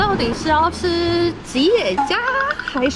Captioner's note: excited high pitch